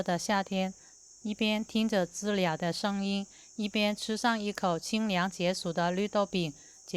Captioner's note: cicada